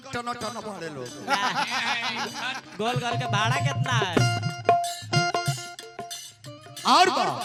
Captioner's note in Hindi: हंसी